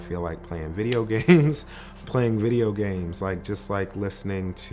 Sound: laughs lightly

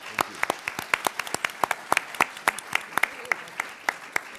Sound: applause

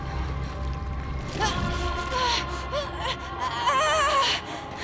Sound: groaning

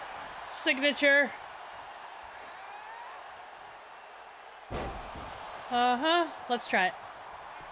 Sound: applause; applause

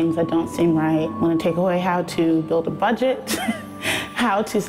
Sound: laughs

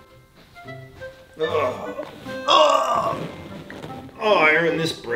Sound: comical music; groaning

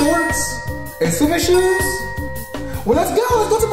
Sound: ding sound effect

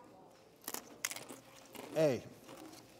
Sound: crunching

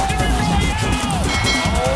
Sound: bell Rings 2x

